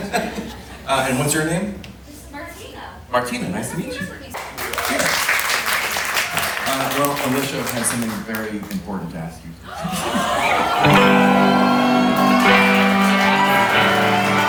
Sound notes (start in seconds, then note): 4.3 audience clapping; 9.7 audience cheering and clapping